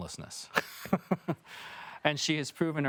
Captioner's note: laughing